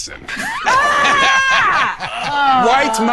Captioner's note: everyone laughing